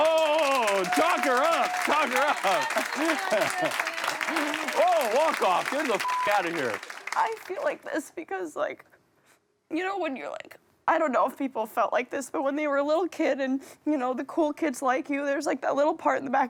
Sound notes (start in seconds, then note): 3.1 everyone applauding; 6.0 beep